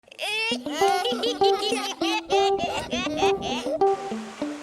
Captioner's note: children laughing